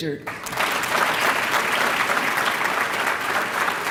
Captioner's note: applause